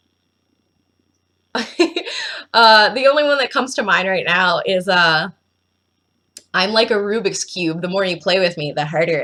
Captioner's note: giggles